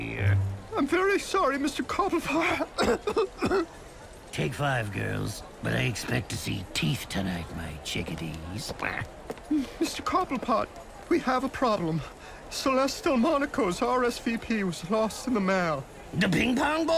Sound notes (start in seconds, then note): 2.4 coughs